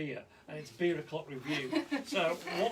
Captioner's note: woman laughs